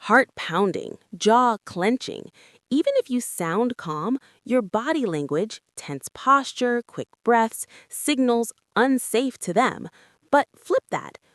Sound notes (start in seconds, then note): 5.8 tense posture, quick breaths